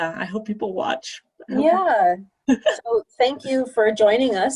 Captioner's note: laughter